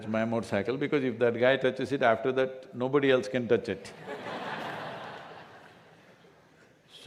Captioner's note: laughter